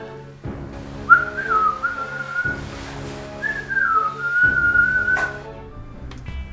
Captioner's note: whistles